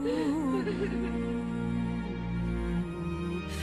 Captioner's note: woman crying